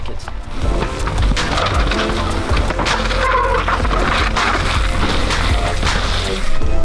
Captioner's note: wheels bumping; relaxing music